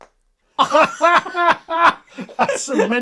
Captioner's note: both laughing